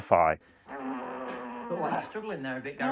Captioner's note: grunts